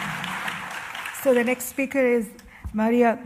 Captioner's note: applause